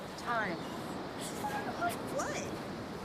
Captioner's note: girl whimpers